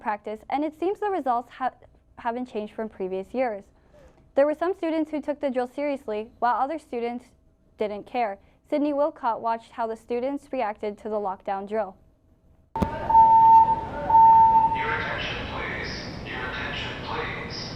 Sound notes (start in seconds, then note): 12.8 loud beeping